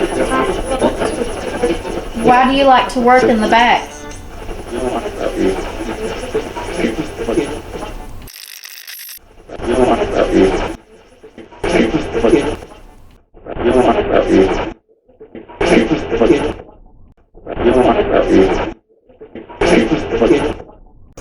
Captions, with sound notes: Why do you like to work in the back? (radio scratching) (radio voice) (radio voice)